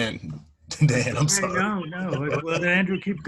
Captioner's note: laughs